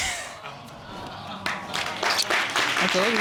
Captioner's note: chuckles; applause